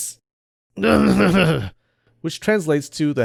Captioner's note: cough